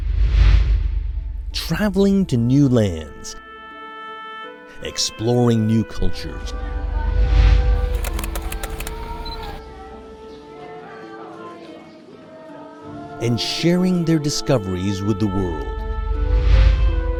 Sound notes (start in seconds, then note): 3.4 gentle music; 7.8 camera clicking